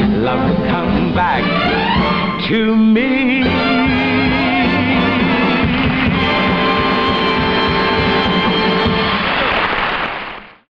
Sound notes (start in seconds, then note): 5.0 audience applauding